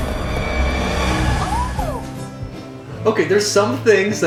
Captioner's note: creepy Rodent noises